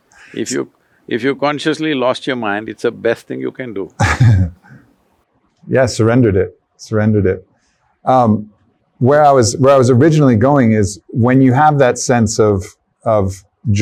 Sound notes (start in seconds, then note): 3.9 laughs